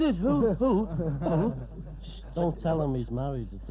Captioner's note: group laughing